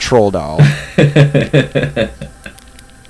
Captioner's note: laughs